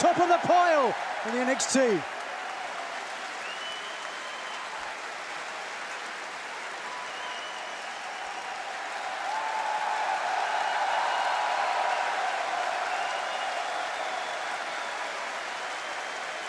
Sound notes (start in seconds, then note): 3.5 crowd cheering